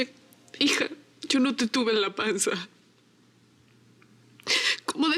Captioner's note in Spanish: sollozos